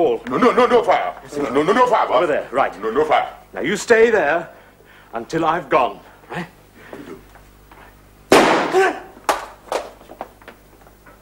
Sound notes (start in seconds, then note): 8.3 gunshot